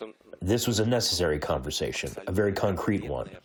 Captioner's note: through translator